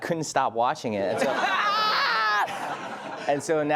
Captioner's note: laughs loudly